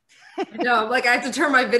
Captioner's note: laughs